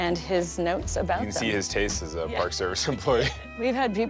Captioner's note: chuckling